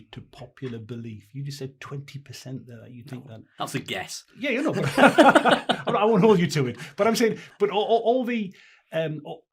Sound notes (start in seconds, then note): 4.7 laughing